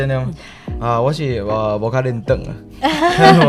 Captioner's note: Mandarin; laughing